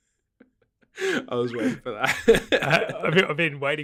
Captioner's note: laughing